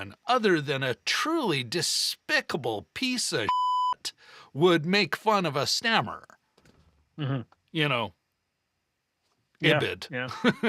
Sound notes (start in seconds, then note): 3.4 beep